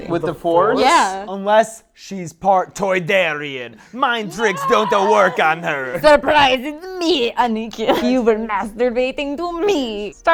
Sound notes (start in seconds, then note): 2.5 accented